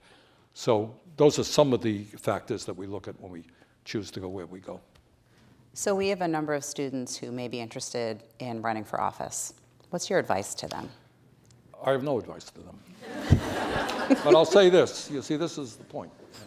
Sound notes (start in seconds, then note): 13.0 laughter